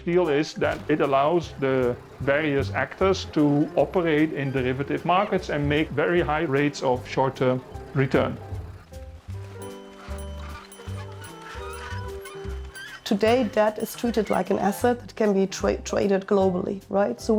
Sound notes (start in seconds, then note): 9.5 bell dinging; 9.5 wheels creaking